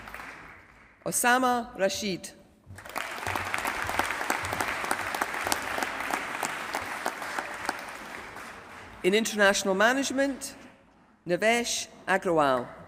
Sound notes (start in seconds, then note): 0.0 applause; 2.7 applause